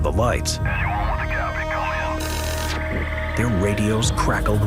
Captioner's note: suspenseful music; radio chattering